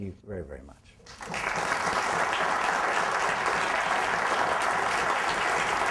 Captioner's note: applause